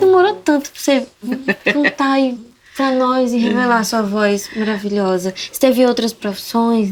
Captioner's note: laughs